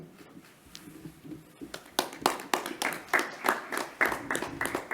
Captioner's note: clapping